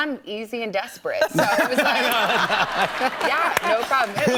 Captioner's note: laughter